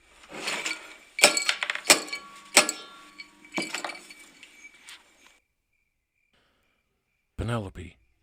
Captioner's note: breaking lock sounds